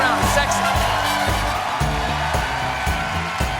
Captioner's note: cheers and applause